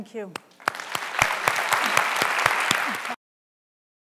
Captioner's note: applause